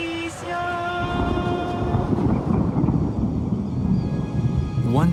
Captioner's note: thunder rumbling